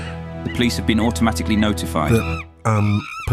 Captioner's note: monkeys screaming